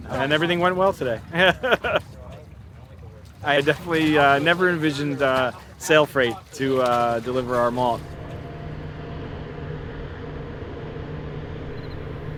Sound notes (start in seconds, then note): 1.1 laughs; 8.5 engine rumbling